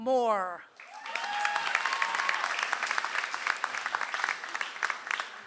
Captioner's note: audience applauds